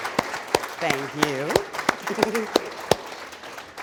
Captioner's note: voiceover